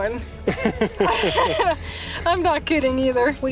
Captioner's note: laughter